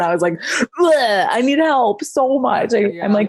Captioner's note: exclaims